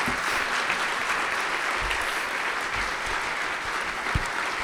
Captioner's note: applause